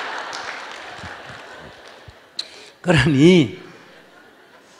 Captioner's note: audience Laughter